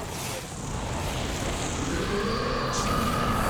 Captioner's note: roaring